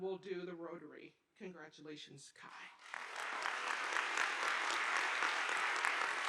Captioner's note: audience applauding